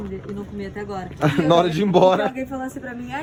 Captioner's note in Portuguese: risos